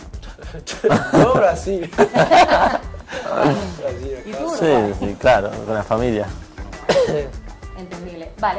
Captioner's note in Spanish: risas